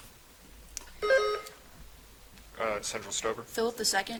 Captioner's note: buzzer chiming